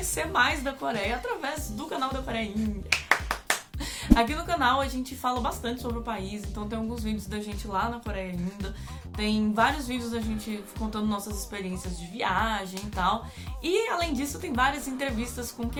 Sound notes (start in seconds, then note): 2.9 clapping